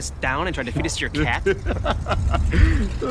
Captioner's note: laughs